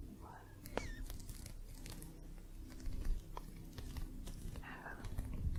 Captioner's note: gentle scratching